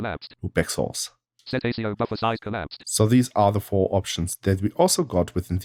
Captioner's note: automated voice